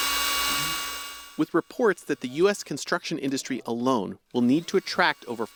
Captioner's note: voice-over